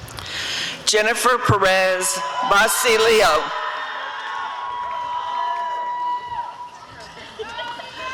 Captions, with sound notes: Jennifer Perez-Bacilio [audience cheering]